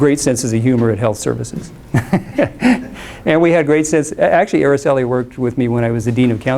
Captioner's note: laughs